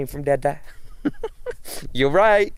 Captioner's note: laughs